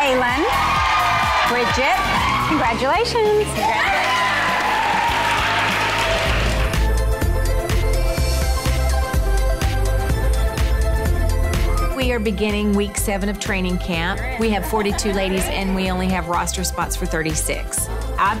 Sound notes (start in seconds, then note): 5.2 girls cheering; 6.3 upbeat pop music